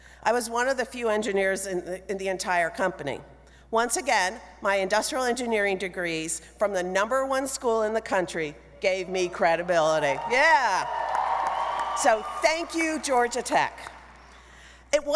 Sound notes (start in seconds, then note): 10.0 crowd cheering